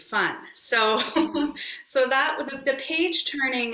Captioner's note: laughs